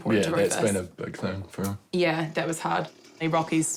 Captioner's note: none